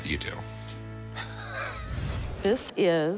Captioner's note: laughing